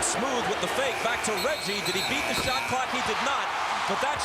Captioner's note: buzzer